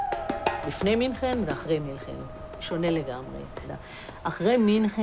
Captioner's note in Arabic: الصوت المنطوق باللغة العبرية